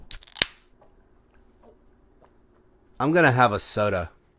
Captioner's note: can opening